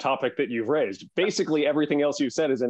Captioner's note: laugh